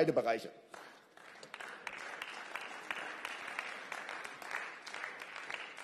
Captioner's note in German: Beifall